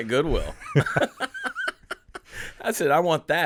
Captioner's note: laughing